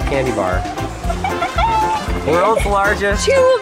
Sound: laughing

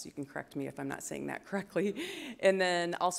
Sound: chuckle

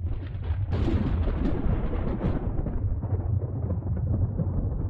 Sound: thunder in distance

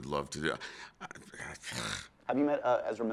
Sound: sighs

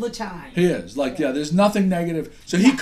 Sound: voiceover

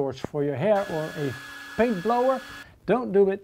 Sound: hair blower buzzing

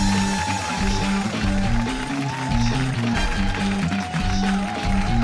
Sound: cheers and applause

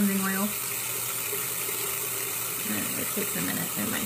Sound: faucet running

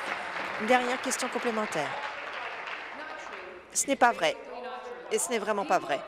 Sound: applause

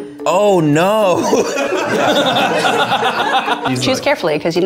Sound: everybody laughs

